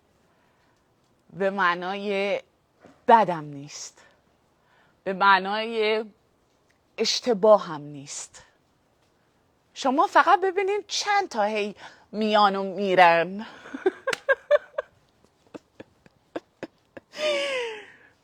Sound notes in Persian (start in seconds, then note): 13.6 خنده